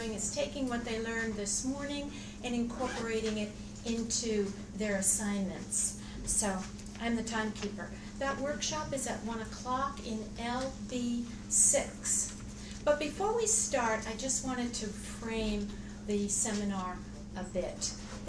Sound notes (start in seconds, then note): none